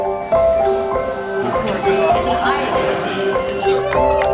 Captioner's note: indistinct chatter